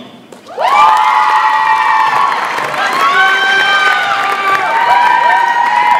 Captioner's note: audience applauds and cheers